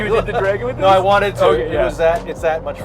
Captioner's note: laughs